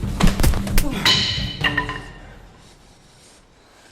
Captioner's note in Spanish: palo golpeando el piso